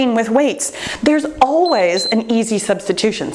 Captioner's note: timer beeps